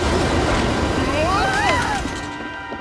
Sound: screaming

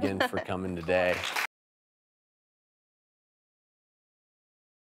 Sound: clapping

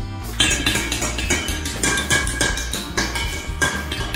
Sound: loud banging

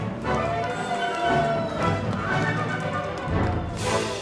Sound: audience applauding

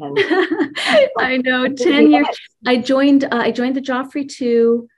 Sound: laughs

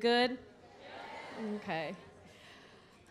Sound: crowd exclaims positively

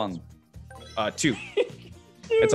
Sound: laugh

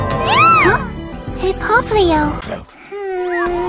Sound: music ends; deadpan

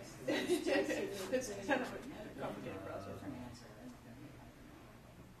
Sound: laughs

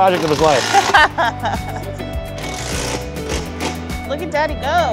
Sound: laughs

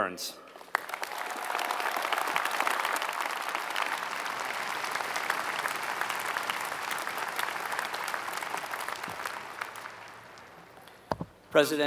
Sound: applause

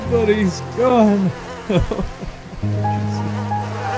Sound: sobbing

